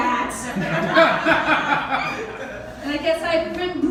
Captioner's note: laughter